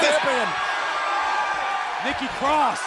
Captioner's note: crowd cheering